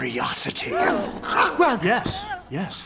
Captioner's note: Croods gasp and growl